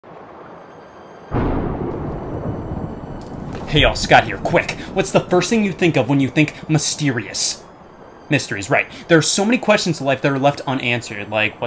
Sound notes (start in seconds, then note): 1.3 thunder sounds